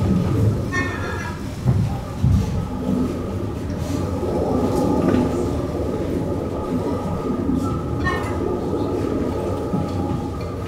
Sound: sea birds honking

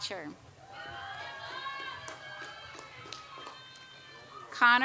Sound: audience applauds

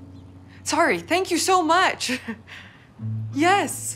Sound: chuckles

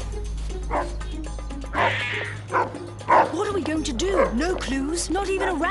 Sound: clock ticking; dark barking; cat hissing

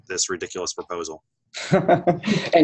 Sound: chuckle

